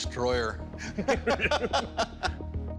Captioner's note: laughter